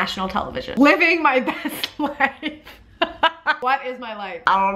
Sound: laughing

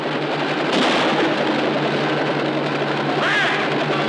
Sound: gunshot firing

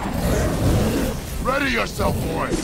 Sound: gasps

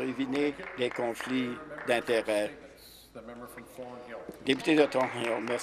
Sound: applause

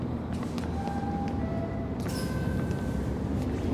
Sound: subway door chimes; footsteps

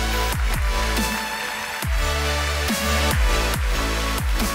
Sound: audience applauding

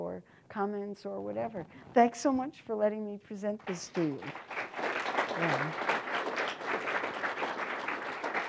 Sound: applause

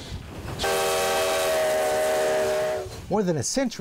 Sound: train whistle blowing

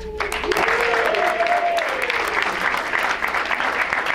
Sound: crowd applauds

